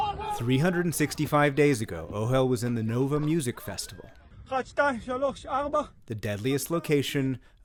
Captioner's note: voice-over